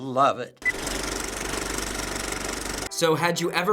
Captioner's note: movie reel clicks